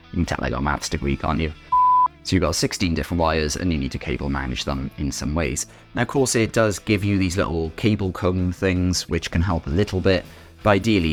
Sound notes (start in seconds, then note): 1.7 edit sound